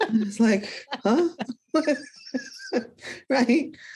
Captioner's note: both laugh